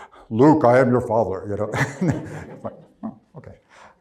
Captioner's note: laughs